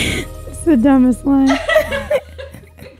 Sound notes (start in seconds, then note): 1.4 laughs